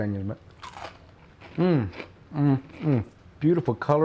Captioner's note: continues crunching and humming